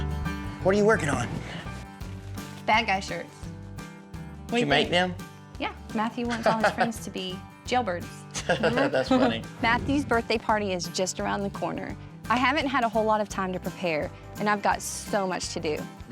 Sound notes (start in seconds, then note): 8.3 laughs